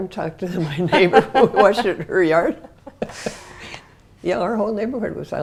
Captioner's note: laugh